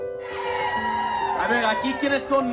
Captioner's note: cheering from crowd